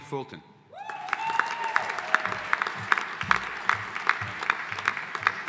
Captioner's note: audience applauding